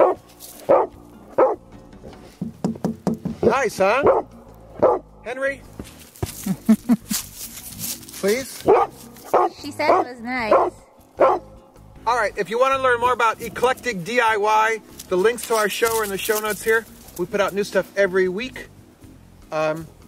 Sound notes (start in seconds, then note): 0.6 dog barking; 6.3 laughing; 11.1 dog barking